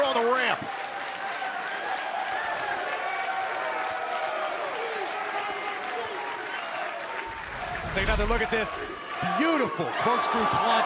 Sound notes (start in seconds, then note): 1.8 crowd cheering